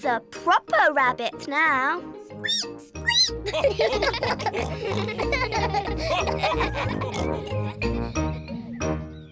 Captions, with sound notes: George is a proper rabbit now. -(SQUEAKS) -(ALL GIGGLE)